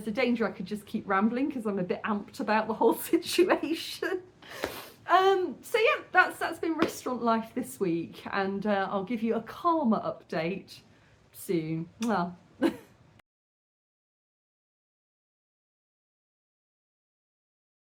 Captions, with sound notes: a danger I could just keep rambling because I'm a bit amped about the whole situation. Um, so yeah, that's- that's been restaurant life this week. And I'll give you a calmer update soon. [kiss]